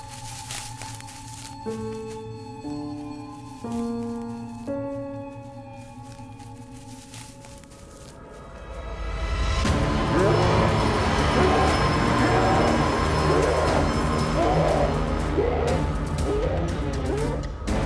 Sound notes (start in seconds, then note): 10.3 howling